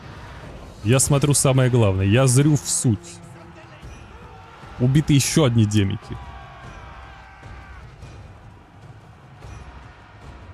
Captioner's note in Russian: крик